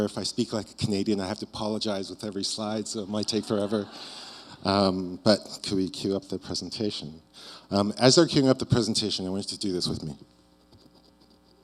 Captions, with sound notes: If I speak like a Canadian, I have to apologize with every slide, so it might take forever." (audience laughs) But could we queue up the presentation? As they're queuing up the presentation, I want you to do this with me.